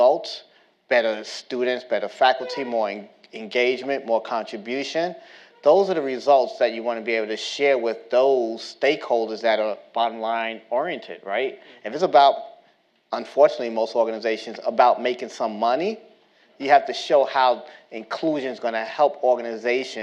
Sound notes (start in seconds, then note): none